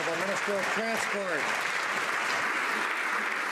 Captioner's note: some Applause